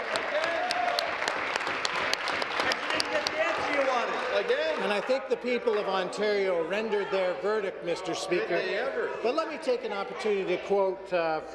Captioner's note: applause